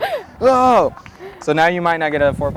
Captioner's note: laughs